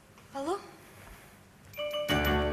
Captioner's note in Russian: звонит телефон